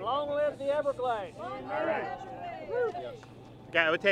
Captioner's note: crowd